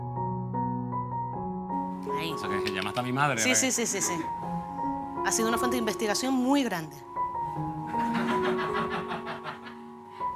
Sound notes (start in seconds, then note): 7.9 laughter